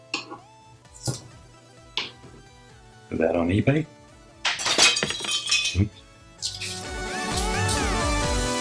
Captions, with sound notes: Put that on eBay (crashing noise)